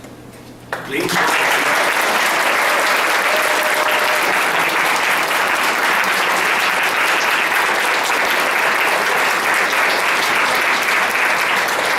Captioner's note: applause